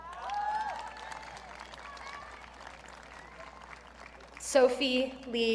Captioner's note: audience cheering